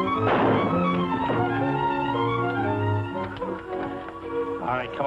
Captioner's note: gunshot